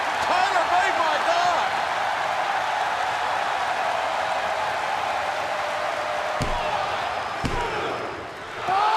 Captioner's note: crowd cheering